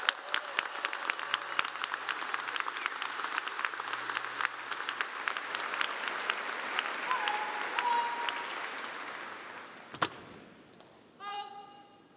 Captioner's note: applause